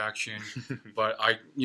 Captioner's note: laughs